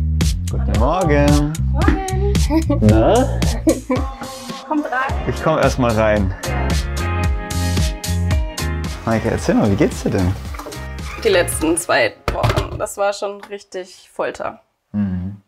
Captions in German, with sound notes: Guten Morgen. - Hallo. Morgen. (Lachen) Na? Kommt rein. - Ich komm erst mal rein. (Aufgeweckte Musik) Meike, erzähl mal, wie geht's dir denn? Die letzten zwei Wochen, das war schon richtig Folter. - Mhm.